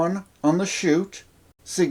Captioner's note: outback guy voice